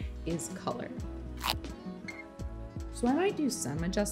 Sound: tape rips

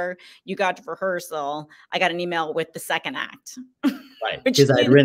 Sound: laughs

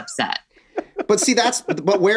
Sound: Glenn laughs

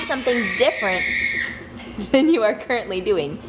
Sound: kids shrieking

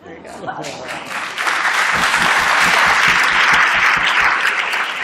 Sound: applause

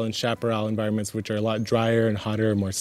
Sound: bird chirps

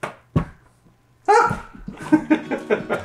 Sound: laughs; barks

